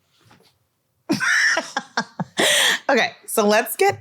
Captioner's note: laughs